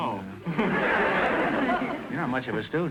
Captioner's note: audience laughter